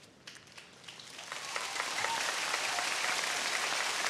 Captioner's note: audience cheering